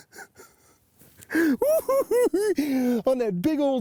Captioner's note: cackling